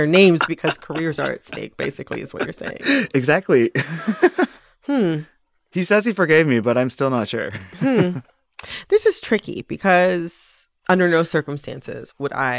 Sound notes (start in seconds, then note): 4.1 laughter